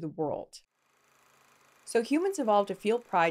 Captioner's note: projector whirring